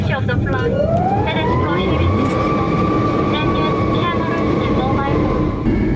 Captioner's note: drowned out by plane engine roaring